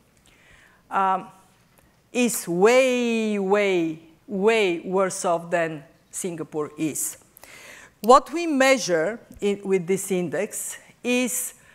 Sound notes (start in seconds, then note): none